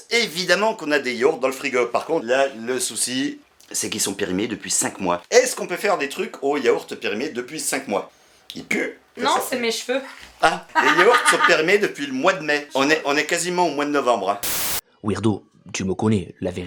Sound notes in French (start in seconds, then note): 10.7 rires